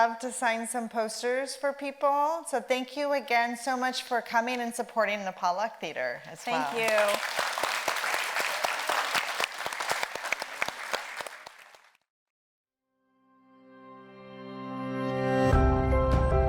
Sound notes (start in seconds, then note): 6.4 audience applauds; 13.7 gentle music